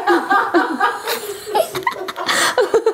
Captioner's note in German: Die Mutter lacht erneut